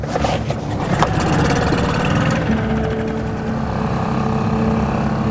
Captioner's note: trolling motor growling; suspenseful music continues